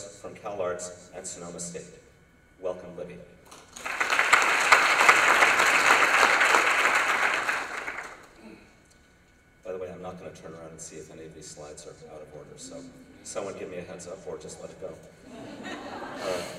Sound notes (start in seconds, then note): 3.5 applause